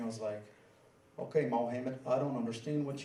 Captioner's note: in a Southern accent